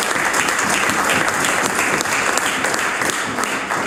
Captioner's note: some Applause